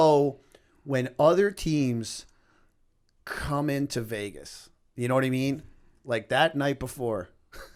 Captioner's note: chuckle